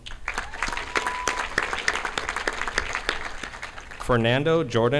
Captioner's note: audience applauding